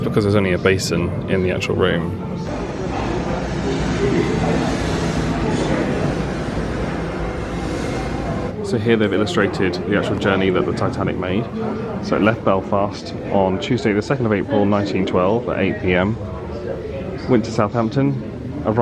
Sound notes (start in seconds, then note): 2.6 light chatter; 2.6 waves crashing